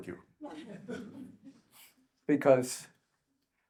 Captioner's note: audience chuckles